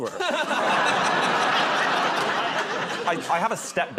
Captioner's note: laughter